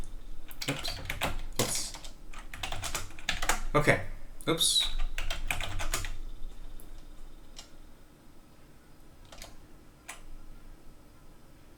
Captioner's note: typing